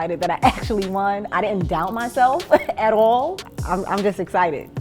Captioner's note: chuckles